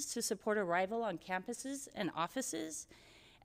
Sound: none

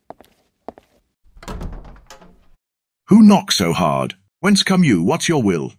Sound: knocking

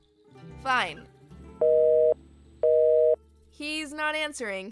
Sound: busy signal

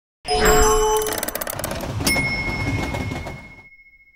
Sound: mechanical chiming

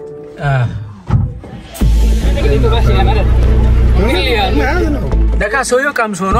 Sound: crowd noise

